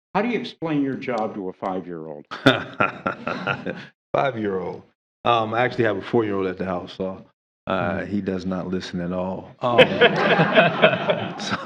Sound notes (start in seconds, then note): 4.0 laughter; 11.4 laughter